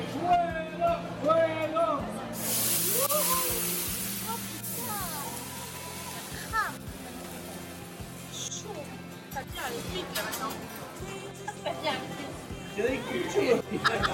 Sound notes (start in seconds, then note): 11.3 laughs